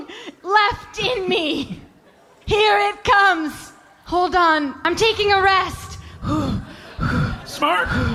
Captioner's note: laughing; panting